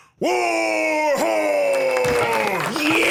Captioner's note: applause